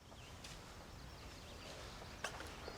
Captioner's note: birds chirping